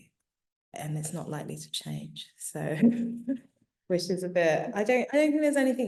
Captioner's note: chuckling